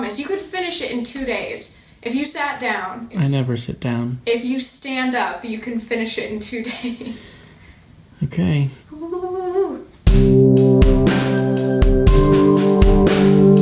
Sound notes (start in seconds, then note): 6.6 laughing; 9.1 excitedly; 10.1 uplifting music